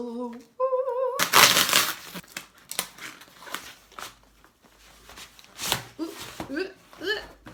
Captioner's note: ripping noises